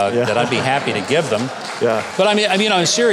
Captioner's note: crowd laughing